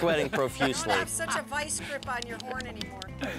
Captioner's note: laugh